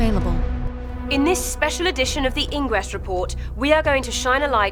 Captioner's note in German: Voiceover